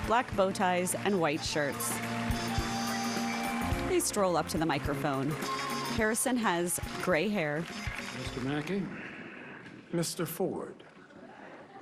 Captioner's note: applause